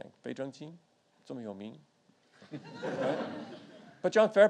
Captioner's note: audience laughing; speaks foreign language